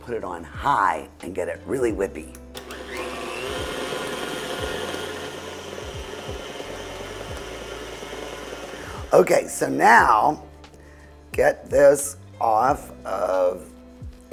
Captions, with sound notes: put it on high and get it really whippy. (stand mixer whirring) Okay. So now, get this off of the blade as much as you can.